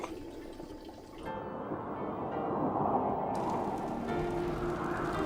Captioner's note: wind whistling